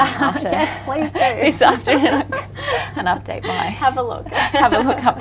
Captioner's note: laughs